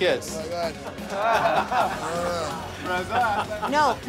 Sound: laughter

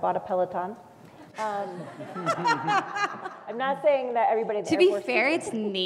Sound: laugh

